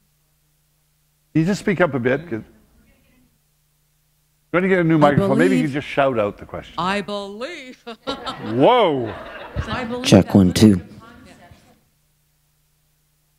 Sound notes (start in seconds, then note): 10.6 laughter